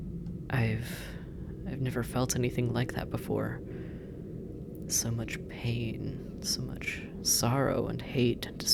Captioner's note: thoughtful